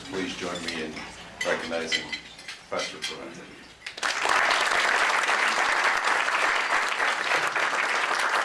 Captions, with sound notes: Please join me in recognizing Professor Provenza. [APPLAUSE]